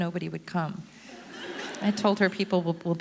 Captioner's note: audience laughter